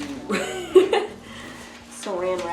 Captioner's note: laughs